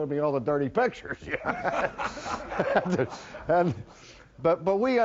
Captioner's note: laughter from audience with speaker